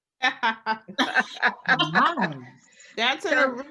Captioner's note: participants laughing